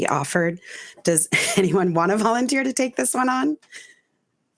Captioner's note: chuckling